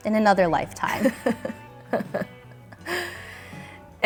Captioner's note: laughs